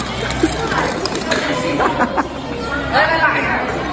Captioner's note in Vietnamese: cười